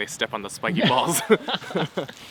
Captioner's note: both laughing